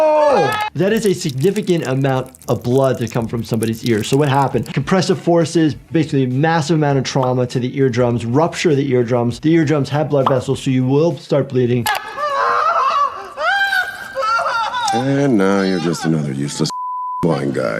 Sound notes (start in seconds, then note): 12.1 person screaming; 16.7 beep